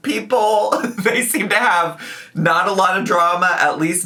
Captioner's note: laughing